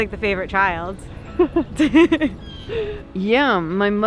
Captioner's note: both laughing